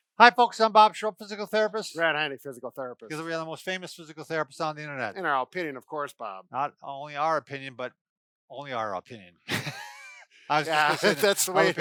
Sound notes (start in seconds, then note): 10.6 laughs